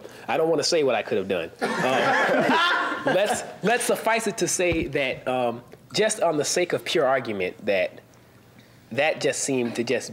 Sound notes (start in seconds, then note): 1.7 panel laughs